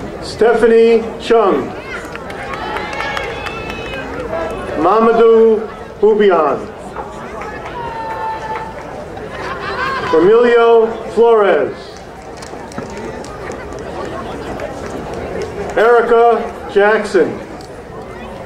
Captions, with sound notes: Stephanie Chung. (crowd cheering) Mamado Hupion. (crowd cheering) Emilio Flores. Erica Jackson.